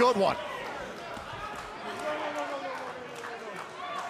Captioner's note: crowd cheering